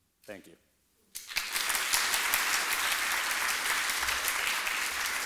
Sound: applause

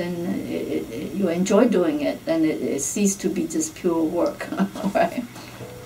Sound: laughs

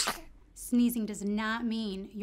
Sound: sneezes

